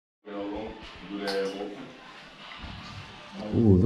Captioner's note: mumbling